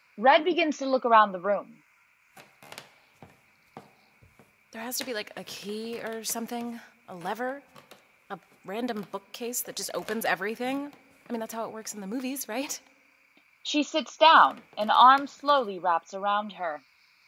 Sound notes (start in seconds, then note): 2.3 footsteps on a creaky wood floor